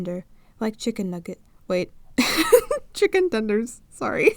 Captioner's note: laughs